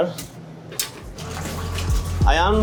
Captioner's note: mixer motor whirring